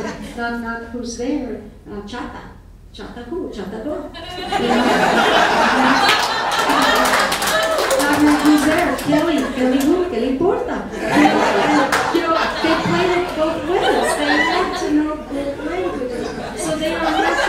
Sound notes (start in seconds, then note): 0.2 speaking in foreign language; 4.2 audience laughing; 5.4 audience applauding; 8.2 speaking in foreign language; 10.9 audience laughing